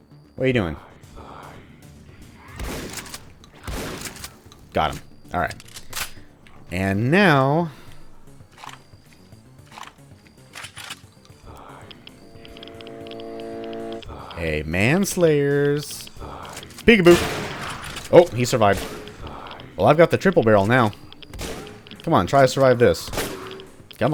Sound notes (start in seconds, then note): 2.2 shotgun blasting; 9.6 Junker Musket reloads and charges up; 17.2 bam